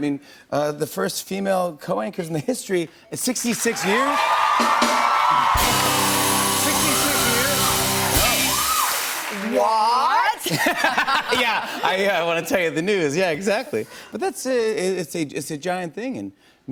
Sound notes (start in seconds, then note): 3.4 cheers and applause; 10.2 laughs